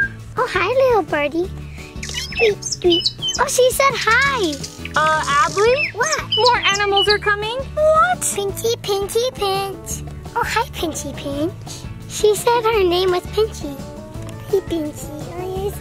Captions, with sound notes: - Oh, hi, little birdie. Tweet, tweet, tweet. (bird tweeting) Oh, she said hi! - Adley? - What? - More animals are coming. What? - Pinky pinky pinch. Oh, hi Pinchy Pinch. She said her name was Pinchy. Hey, Pinchy.